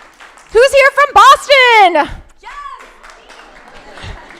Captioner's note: laughs